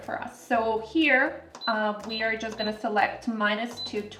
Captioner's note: Instant Pot beeping